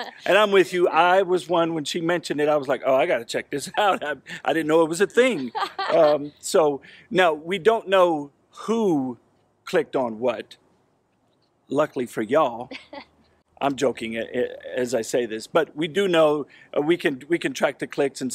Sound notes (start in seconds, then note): 0.0 laughs; 5.0 laughs; 12.7 laughs